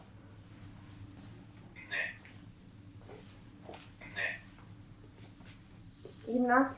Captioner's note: achmet – artificial male voice